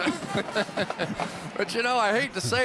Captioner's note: laughter